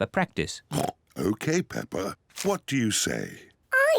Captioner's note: oinks